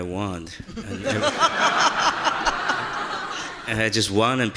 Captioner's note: audience laughing